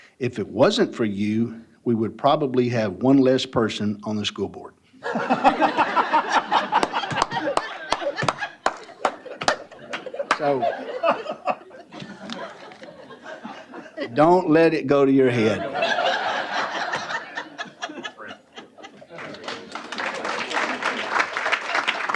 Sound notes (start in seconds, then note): 5.2 laughter; 15.3 laughter; 19.1 applause